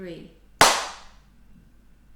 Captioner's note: clap